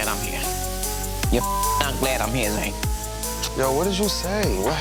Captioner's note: beeping